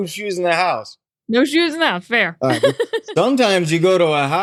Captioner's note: laughs